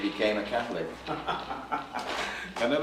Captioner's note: laughing